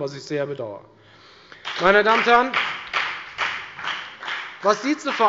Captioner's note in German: Beifall bei der FDP